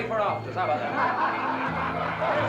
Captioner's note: laughter